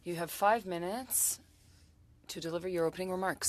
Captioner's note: speaking French